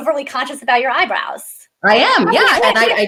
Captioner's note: laughs